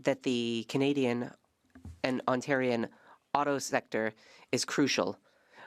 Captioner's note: speaking French